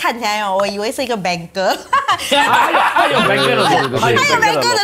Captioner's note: laughs